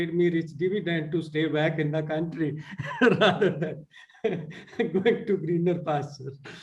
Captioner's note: laughs